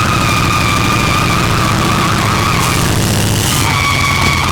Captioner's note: wheel screeching